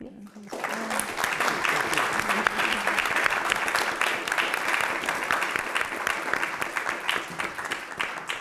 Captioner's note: applause